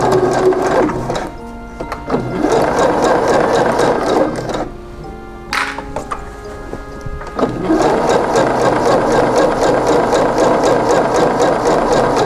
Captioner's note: clips rustling